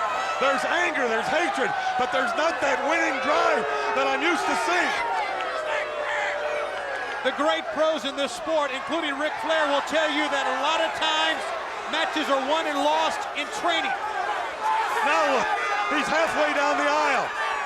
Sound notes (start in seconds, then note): 5.5 crowd booing; 14.4 crowd shouting